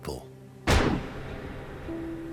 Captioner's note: gunshot